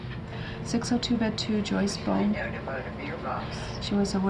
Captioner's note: chattering